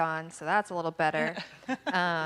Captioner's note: laughing